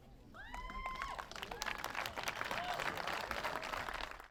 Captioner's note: applause